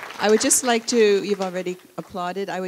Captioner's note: applause